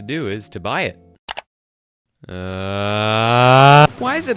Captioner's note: click